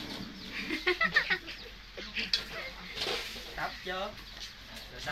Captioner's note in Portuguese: Tiếng cười